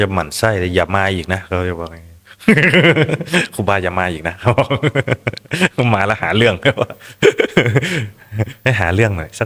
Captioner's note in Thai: เสียงหัวเราะ